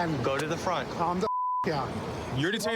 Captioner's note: beep